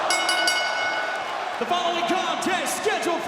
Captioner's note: bell rings